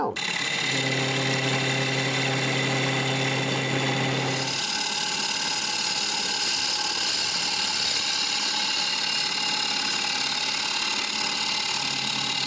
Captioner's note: bowl gouge scraping the wood